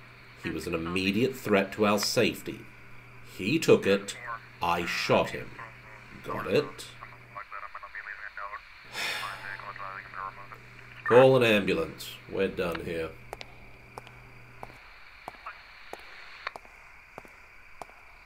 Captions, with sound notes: He was an immediate threat to our safety. He took it. I shot him. Got it? [Cameron sighs] Call an ambulance. We're done here.